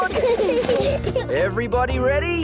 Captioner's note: children giggle